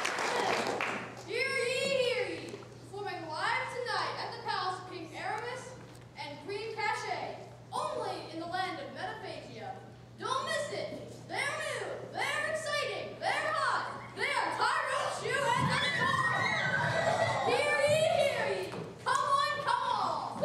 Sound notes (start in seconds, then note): 15.5 princesses cheering and screaming